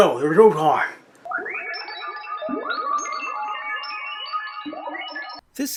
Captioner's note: weird Sci-Fi Noises